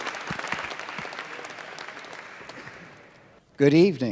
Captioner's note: applause